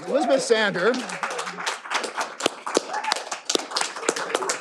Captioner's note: all applauding